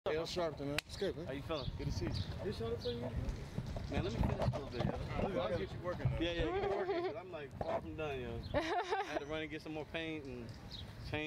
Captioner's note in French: bavardage